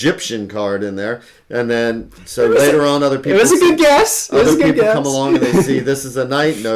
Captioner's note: laughs